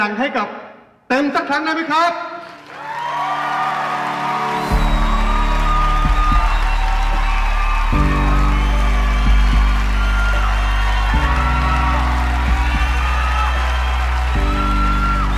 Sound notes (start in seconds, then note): 2.4 applaus and cheering